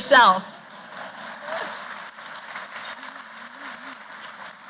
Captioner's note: applause